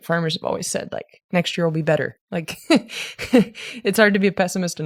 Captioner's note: laughs